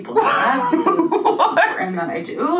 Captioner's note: laughs